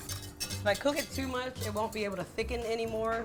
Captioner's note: whisk rustling